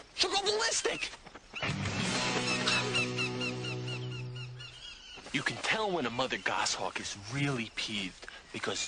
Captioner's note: hawk shrieks